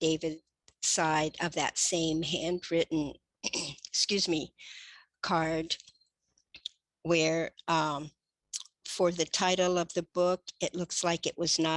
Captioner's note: clears throat